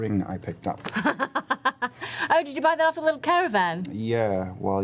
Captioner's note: laughs